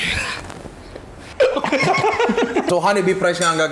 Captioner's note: laughter